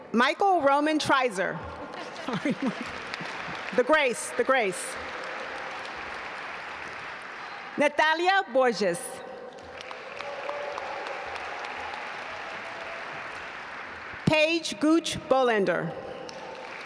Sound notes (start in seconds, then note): 6.2 audience applaud; 9.4 audience applaud